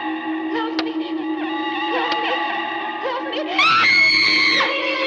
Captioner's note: screams; children laughing